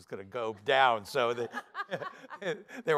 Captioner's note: laughter